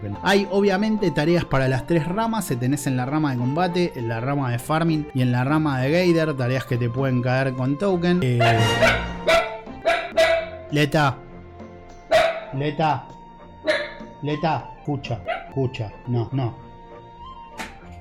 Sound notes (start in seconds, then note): 8.4 dachshund puppy barking madly